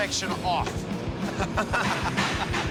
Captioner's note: laughing